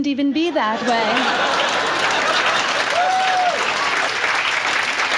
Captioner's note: audience laughs